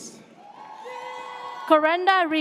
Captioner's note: audience cheers